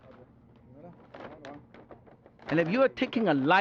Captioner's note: speaking Chinese